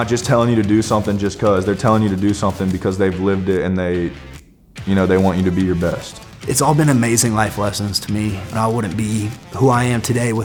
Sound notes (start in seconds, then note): none